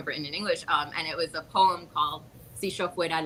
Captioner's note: speaks Spanish